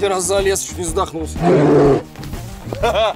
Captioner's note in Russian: рёв